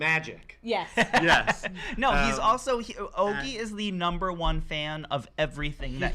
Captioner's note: laughs